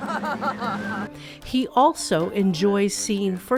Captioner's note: laughing